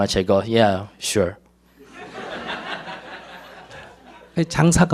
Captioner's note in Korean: 청중 웃음